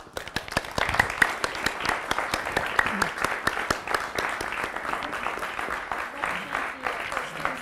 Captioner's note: audience applause